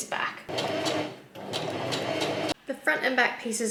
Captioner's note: sewing machine chugs along